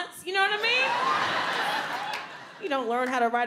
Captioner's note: audience laughs